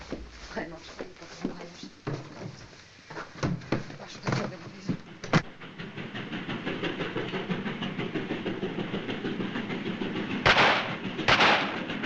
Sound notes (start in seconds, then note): 0.3 muttering in french; 11.2 gunshots